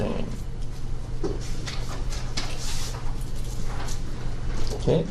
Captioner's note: paper rustling